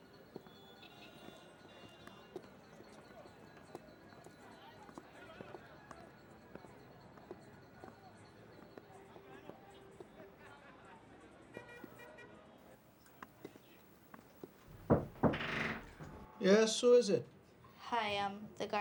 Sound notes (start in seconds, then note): 14.6 knock on door